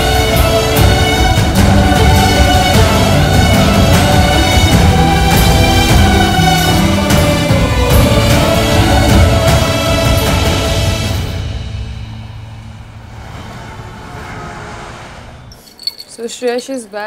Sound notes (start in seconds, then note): 13.1 Traffic sound